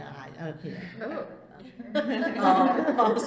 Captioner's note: all laugh